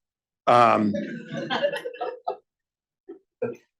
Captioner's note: laughter